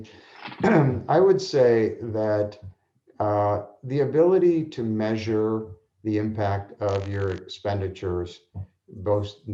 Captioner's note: cough